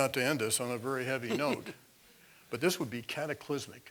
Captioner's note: laugh